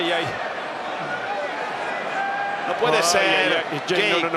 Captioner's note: applause